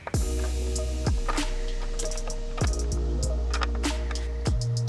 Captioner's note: tightening sounds